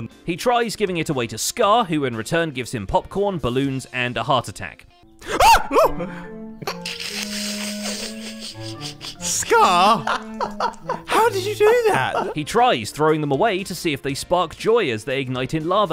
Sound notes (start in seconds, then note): 5.3 screams; 6.6 snickers; 10.0 laughs